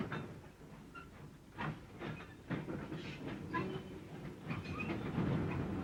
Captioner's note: train passes